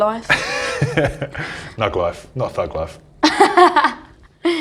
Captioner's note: laughs; laughs